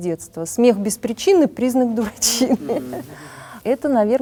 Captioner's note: ill-timed laugh is silly and rough